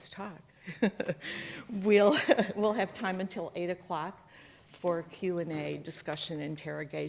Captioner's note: chuckles